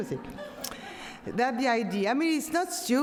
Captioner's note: audience laughs